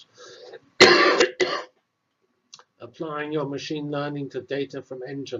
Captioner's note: cough